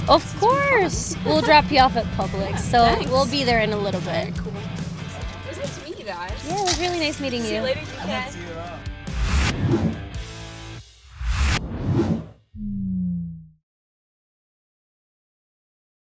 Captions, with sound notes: - Of course, we'll drop you off at Publix. - Yeah, thanks. - So we'll be there in a little bit. - Very cool, it was nice to meet you guys. - Yeah, really nice meeting you. - See you later, you guys. - Thank you. (upbeat rock music) (swooshing)